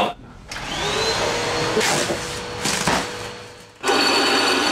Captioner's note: machines whirring